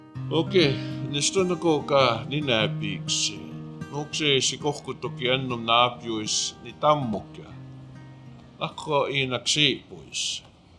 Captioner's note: speaking Blackfoot